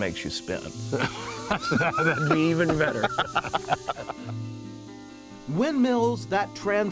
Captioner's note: laughter